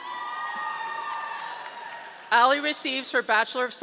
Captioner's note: audience cheering